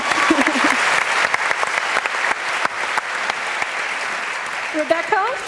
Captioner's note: applause